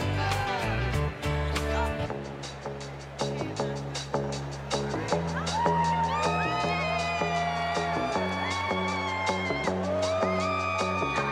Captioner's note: cheers and applause